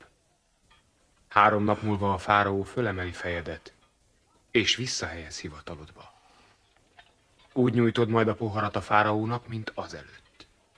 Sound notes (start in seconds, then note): none